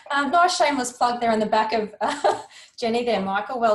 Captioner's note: chuckles